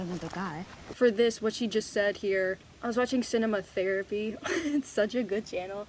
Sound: laughs

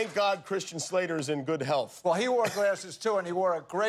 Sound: laughter

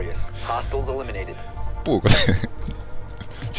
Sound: chuckle

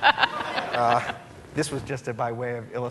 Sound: laughing

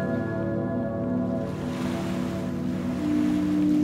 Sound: waves washing ashore

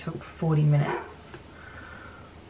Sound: dog barks

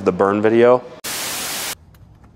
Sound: static sound

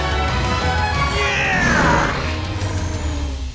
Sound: grunting

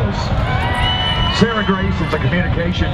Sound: cheering

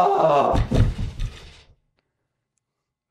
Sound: thump

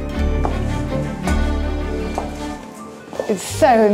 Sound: heels clack

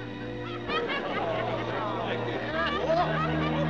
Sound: crowd Clamoring, Laughing

